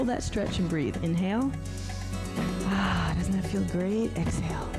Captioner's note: sighs